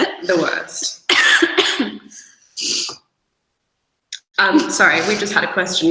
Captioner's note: coughs